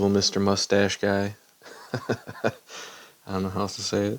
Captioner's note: nervous chuckles of uncertainty